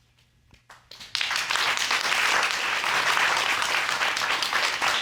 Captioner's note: applause